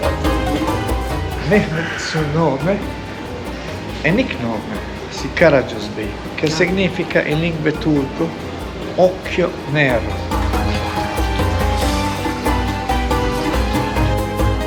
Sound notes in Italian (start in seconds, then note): 9.5 Applauso